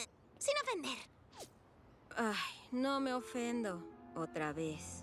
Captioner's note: sigh